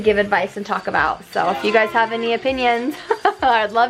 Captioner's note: laughs